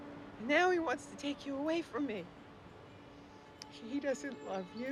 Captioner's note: none